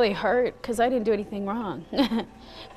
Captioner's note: laughs